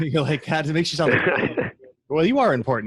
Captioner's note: laughs